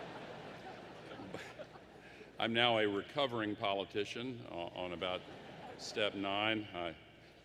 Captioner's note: laughter; laughter